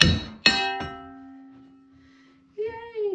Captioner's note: banging